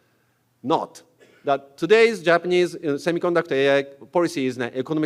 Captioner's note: cough